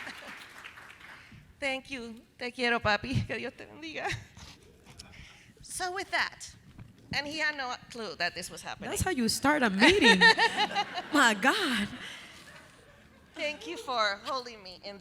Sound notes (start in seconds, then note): 0.1 chuckles; 2.9 speaking Spanish; 9.8 chuckles